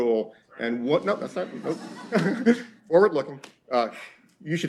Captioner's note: laughter